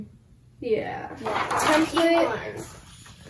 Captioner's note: papers rustling